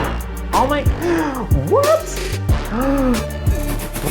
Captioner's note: gasp